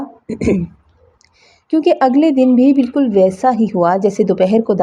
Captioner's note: clears throat